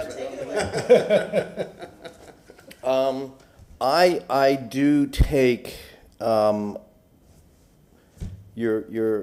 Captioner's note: laughter